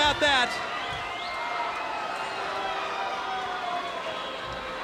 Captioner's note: crowd cheering